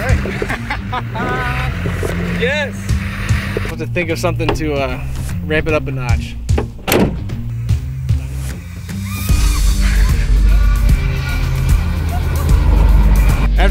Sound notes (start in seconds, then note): 0.0 laughing; 9.0 screams; 11.2 upbeat music